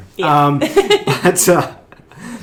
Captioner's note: laughing